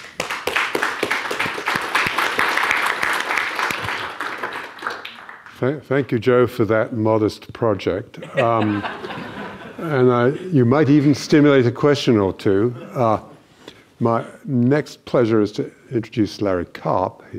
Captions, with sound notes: (audience applauding) - Thank you Joe, for that modest project. (audience laughing) And you might even stimulate a question or two. My next pleasure is to introduce Larry Karp.